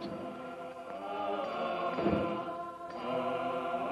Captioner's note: people chanting